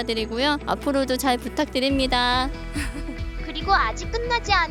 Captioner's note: laughter